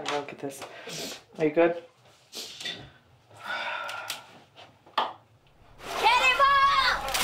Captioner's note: sighs; water splashing